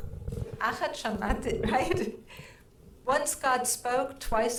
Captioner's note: speaking in foreign language